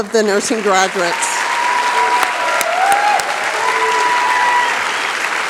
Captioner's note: cheering, applause